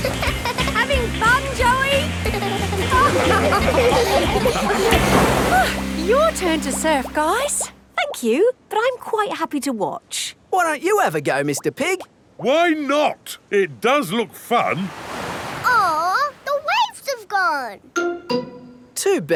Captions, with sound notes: -(GIGGLES) -Having fun, Joey? (LAUGHING) Oh! Your turn to surf, guys! Thank you, but I'm quite happy to watch. Why don't you have a go, Mr. Pig? Why not! It does look fun! Oh, the waves have gone.